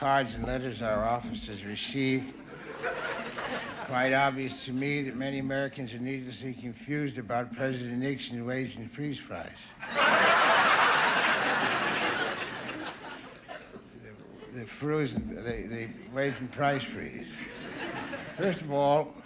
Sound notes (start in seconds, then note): 9.8 audience laughing; 14.1 stammers